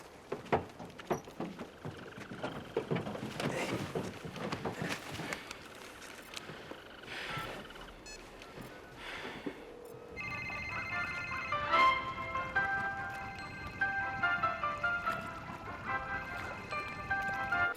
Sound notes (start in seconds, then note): 10.1 ringing; 12.1 continues Ringing